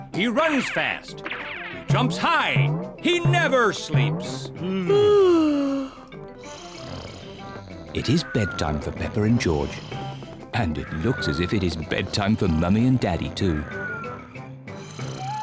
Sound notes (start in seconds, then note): 4.6 both yawn; 6.8 both snore